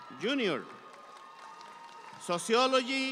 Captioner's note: audience cheering